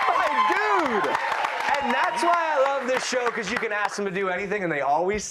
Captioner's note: cheers